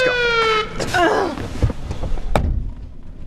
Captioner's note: siren blaring